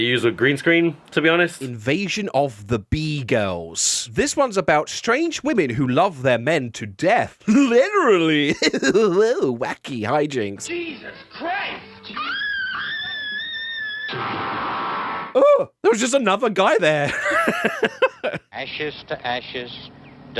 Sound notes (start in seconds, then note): 12.0 screaming